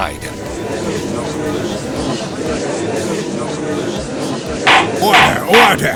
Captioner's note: gallery chattering